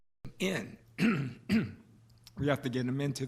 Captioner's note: clears throat